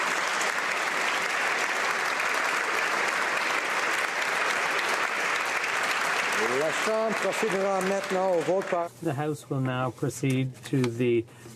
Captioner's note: applause